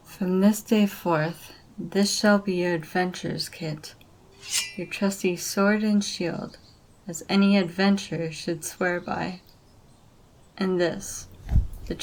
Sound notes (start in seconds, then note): 4.4 sword unsheathes